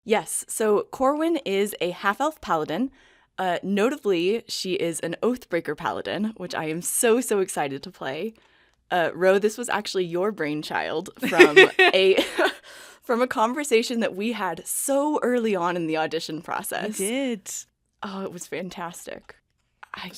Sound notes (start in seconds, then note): 11.2 both laugh